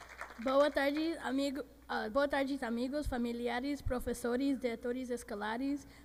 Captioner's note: audience applauding; speaking in foreign language